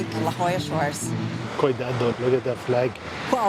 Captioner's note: in Portuguese